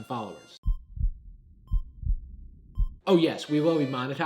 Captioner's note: beeps